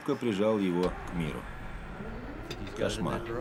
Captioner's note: whirring